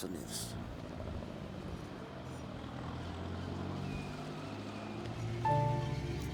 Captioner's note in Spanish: Vehículo en movimiento